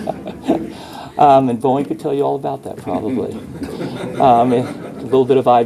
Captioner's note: laughter